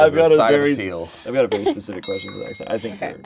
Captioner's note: bell clicking sound